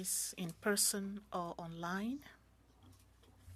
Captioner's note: speaking French